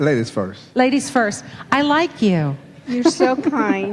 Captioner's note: laughing